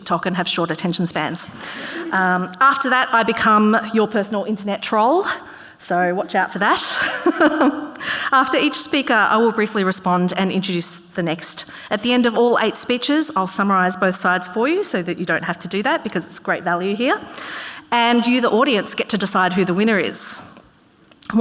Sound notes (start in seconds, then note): 7.1 laughs